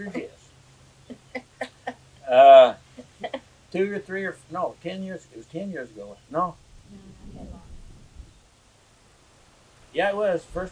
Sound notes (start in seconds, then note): 2.9 laughter